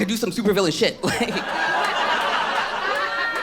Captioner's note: audience laughs